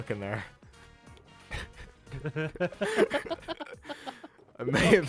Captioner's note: both laugh